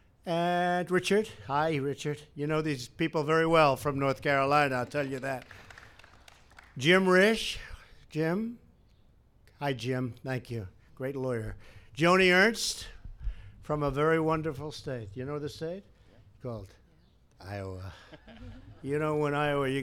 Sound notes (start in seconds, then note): 4.7 applause; 17.9 laughter